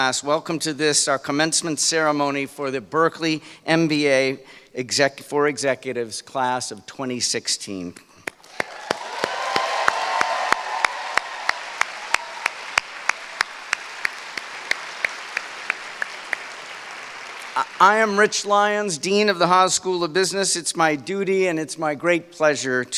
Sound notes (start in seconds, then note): 8.1 applause